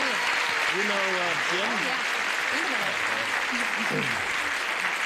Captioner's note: applause